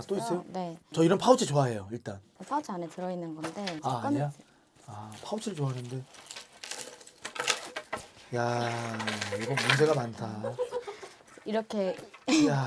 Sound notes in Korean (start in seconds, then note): 6.8 와르르